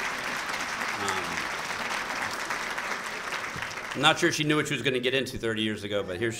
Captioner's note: applause